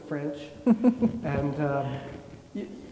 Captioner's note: chuckles